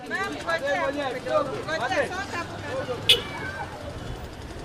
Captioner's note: urban life hustling